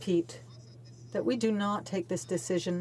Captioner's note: speaking French